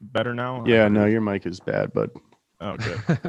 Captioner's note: laughs